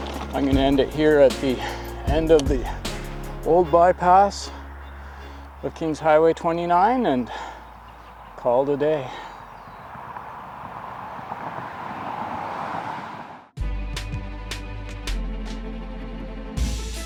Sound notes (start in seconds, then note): 11.1 traffic passes